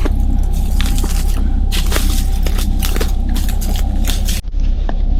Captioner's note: footsteps rustling